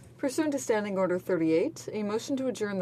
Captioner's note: speaking French